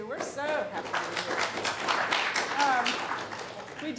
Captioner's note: applause